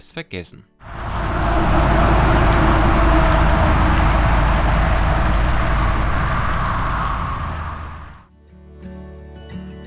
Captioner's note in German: Straßengeräusche